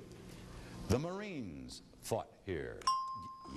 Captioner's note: ding